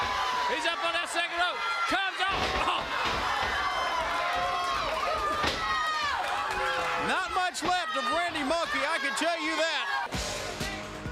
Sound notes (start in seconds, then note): 2.6 crowd cheering